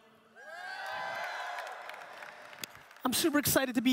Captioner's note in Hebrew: הקהל מריע